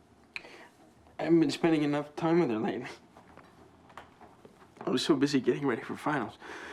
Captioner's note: none